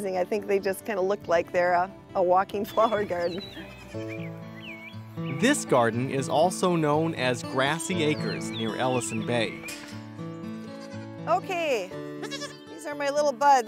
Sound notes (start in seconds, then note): 4.7 voiceover